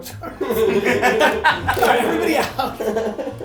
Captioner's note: laughing